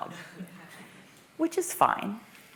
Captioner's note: laughter